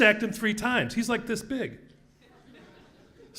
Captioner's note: laugh